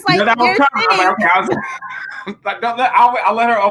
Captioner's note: laughing